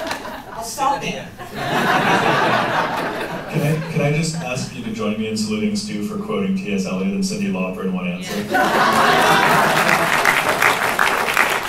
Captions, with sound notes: I'll stop then. [laughter] Could I just ask you to join me in saluting Stu for quoting TS Eliot and Cindy Lauper in one answer? [laughter, applause]